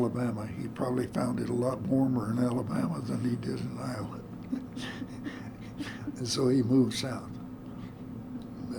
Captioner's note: laughter